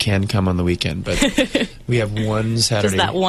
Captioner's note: interviewer laughs